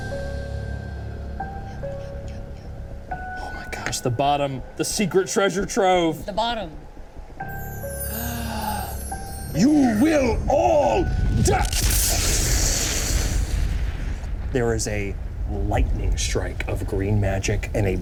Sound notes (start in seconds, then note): 0.0 suspenseful music; 8.1 Odie gasps; 12.1 explosion rumbles